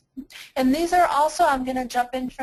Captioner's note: voiceover